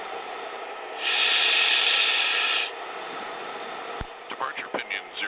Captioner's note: wind continues whistling